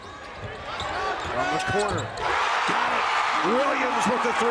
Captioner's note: crowd cheers